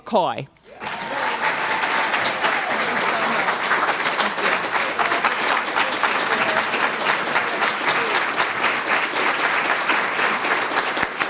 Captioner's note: applause